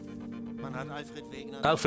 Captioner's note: speaking German